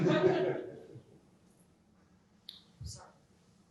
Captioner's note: laughter